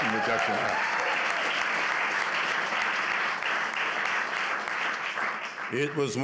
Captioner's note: applause